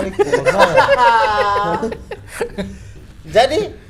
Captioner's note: laughing